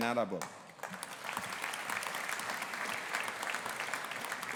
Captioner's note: audience applauding